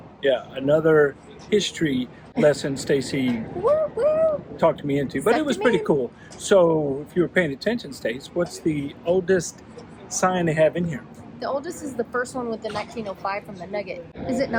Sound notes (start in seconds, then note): 2.4 laughs; 4.2 cheers